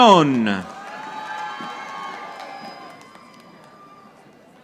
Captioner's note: audience applauding